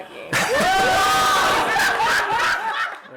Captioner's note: laughter